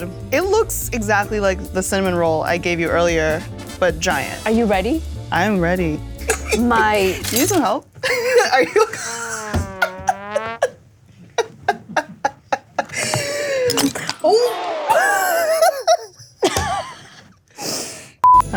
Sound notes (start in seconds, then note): 9.4 sad trumpet sound; 11.3 both laughing